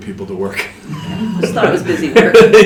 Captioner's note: laughter